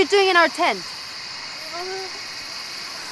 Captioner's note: intense moaning